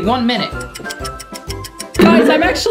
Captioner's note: clock ticking